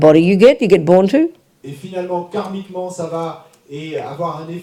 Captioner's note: audience member speaks in French